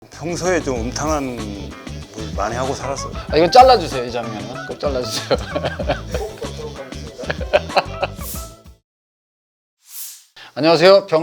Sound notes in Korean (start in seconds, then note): 0.1 경쾌한 음악; 3.2 웃음